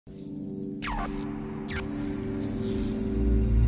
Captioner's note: electric zapping